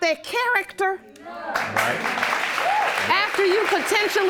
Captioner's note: applause